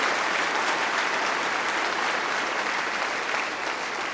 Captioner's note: applause